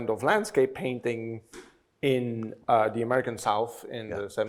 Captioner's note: none